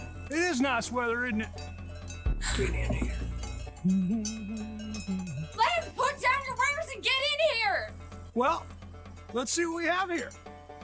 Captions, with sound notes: It is nice weather, isn't it? Get in here! [Still humming] Lance, put down your wares and get in here! Well, let's see what we have here.